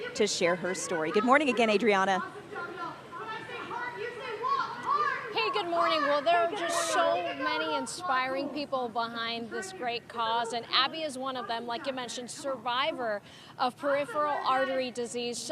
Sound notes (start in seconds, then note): 2.8 indistinct background chattering